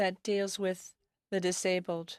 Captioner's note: speaking french